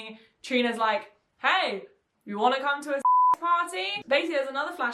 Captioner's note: beep